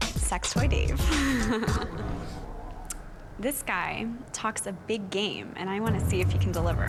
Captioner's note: giggles